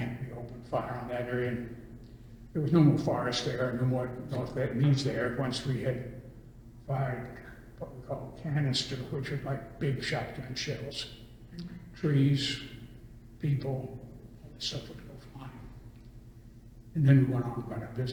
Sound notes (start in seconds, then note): none